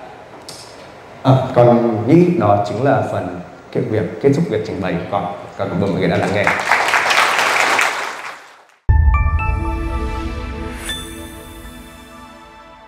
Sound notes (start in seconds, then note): 6.0 audience clapping